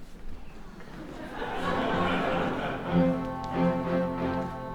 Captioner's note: laughter